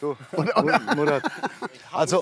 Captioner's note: Lachen